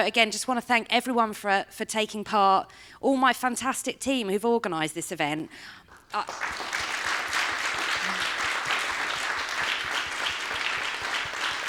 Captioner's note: applause